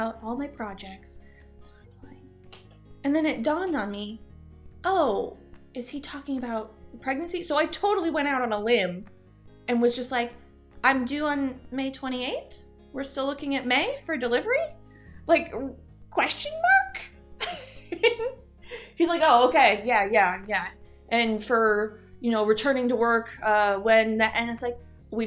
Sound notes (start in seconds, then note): 18.6 chuckle